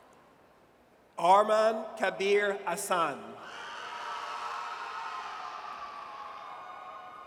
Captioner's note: audience cheers